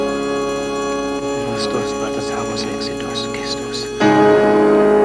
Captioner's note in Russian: читают молитву на латыни